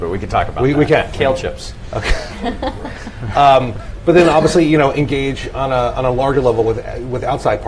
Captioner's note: laughter